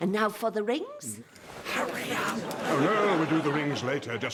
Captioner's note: whispers